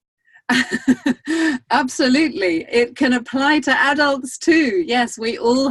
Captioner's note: laughs